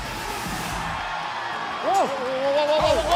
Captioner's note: cheers and applause